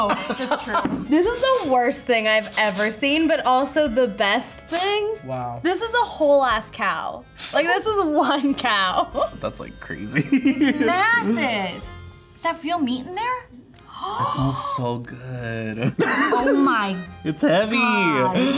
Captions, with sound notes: - Oh, that's true. - This is the worst thing I've ever seen, but also the best thing. - Wow. - This is a whole ass cow. Like this is one cow. - That's like crazy. (laughs) - It's massive! Is that real meat in there? (gasps) - It smells so good. - Oh my God! - (laughs) It's heavy!